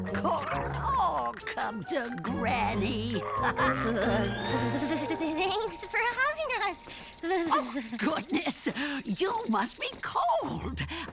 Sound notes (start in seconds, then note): 2.9 laughing; 2.9 shivering